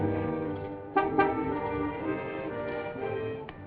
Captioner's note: honks